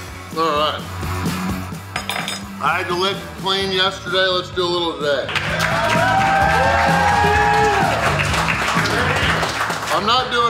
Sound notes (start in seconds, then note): 5.2 cheering & Clapping